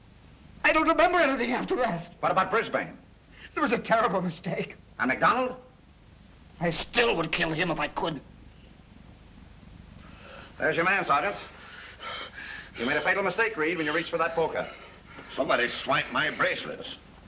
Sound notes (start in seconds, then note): none